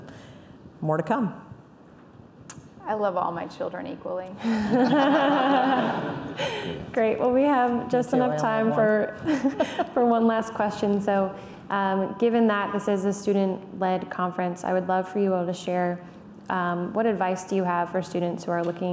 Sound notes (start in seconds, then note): 4.5 laughing